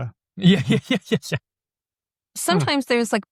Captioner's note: laughs